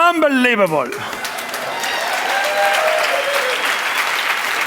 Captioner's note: applause, cheers